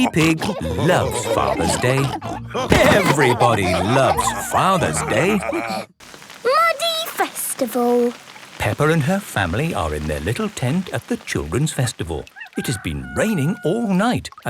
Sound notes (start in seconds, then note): 3.5 laughter